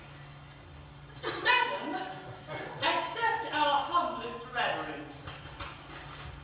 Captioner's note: HILARION, falsetto